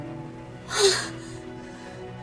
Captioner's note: gasps